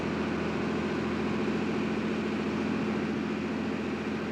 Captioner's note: bus engine revving